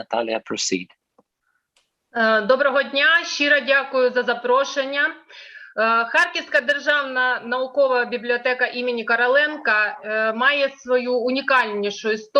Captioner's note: foreign Language